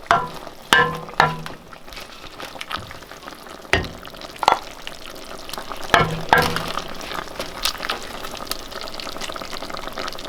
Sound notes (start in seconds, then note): 5.9 utensil banging on bowl